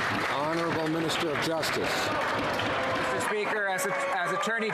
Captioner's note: some Applause